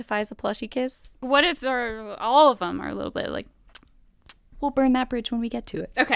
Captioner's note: kissing sounds